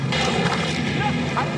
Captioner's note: indistinct chatter